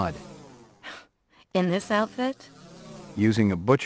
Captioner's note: scoffs